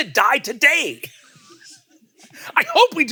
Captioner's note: laugh